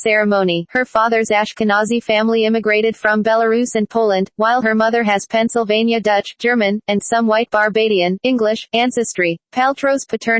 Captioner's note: German